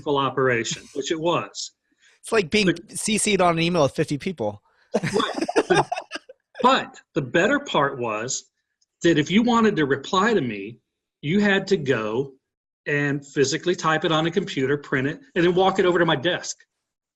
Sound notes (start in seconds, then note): 0.0 laughing; 4.9 laughing